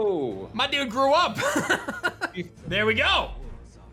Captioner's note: laughs